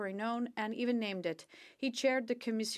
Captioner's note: speaking French